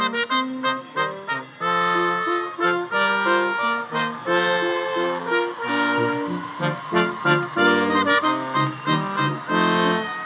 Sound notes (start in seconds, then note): 2.2 audience cheering; 3.0 audience applauding